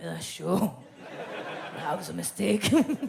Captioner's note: audience laughs